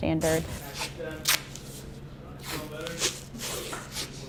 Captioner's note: tape ripping